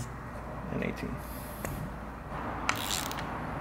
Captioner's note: ratchet Tool Noise